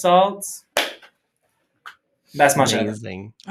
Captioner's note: chef’s kiss